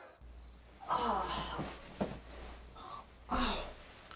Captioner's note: groans